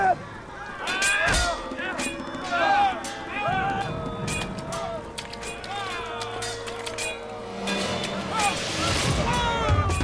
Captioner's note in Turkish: Savaş sesleri